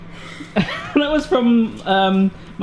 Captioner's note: sigh